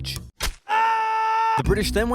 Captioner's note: screaming